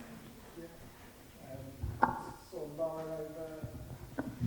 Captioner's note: speaking faintly